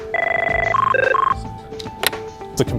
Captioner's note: phone ringing